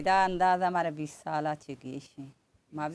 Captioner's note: none